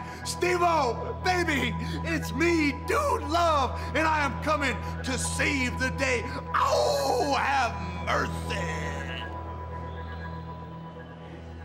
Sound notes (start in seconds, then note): 6.0 howls